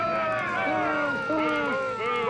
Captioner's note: crowd booing